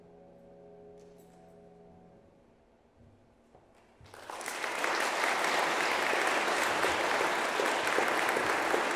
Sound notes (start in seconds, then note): 4.0 audience clapping